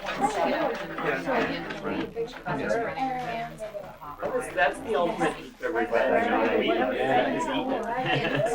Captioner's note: crowd chatter